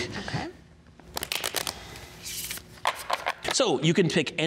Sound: paper shuffling

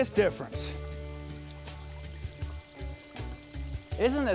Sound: water flowing

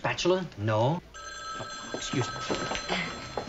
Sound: phone rings

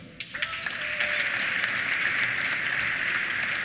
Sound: applause; cheers

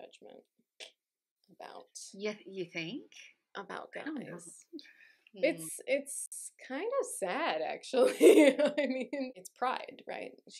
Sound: laughter

